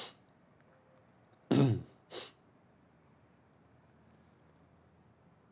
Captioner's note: Jimmy clears throat